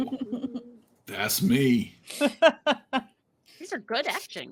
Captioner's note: laughing